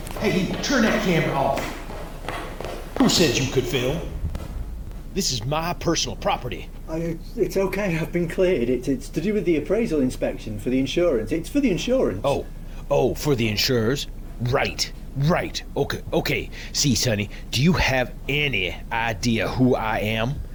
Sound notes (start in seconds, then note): 0.2 shouting; 2.9 footsteps approaching